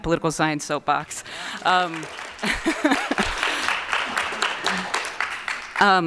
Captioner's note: applause